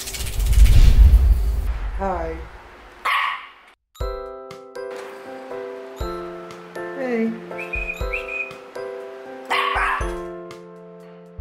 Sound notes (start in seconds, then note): 7.5 whistles